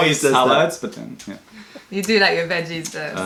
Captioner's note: laughter